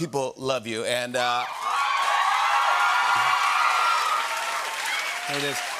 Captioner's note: cheers and applause